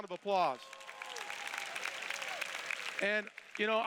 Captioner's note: applause